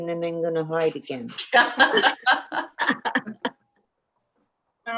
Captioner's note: members laughing